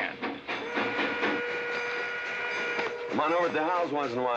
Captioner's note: train whistle blowing